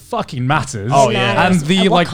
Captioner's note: group agreeing